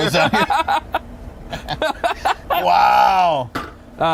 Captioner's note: laughing